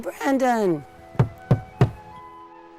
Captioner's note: Sheila nocks on door three times on a wall covered with grafitti